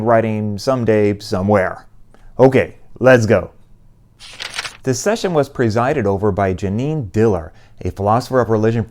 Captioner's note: page turn